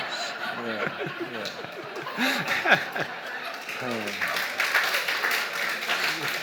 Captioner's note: audience laughs; audience applauds